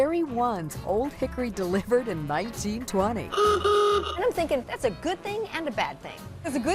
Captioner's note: horn beeping